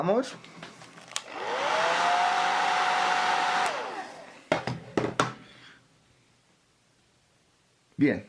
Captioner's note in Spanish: sonido del secador